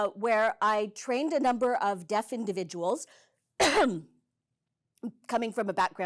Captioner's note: coughs